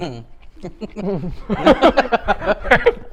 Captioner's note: laughs